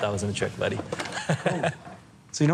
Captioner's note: laughs